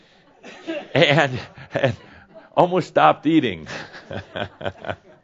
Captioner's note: chuckles